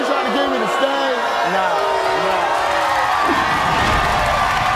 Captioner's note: audience boos